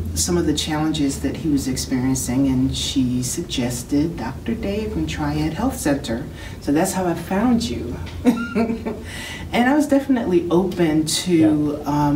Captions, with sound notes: some of the challenges that he was experiencing. And she suggested Dr. Dave from Triad Health Center. So that's how I found you. (Laughs) And I was definitely open to